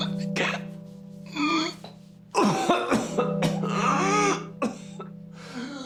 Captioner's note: Rico wheezing and coughing